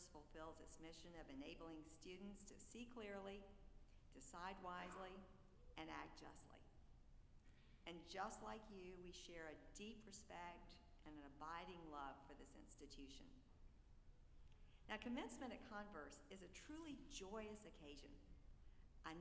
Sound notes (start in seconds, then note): none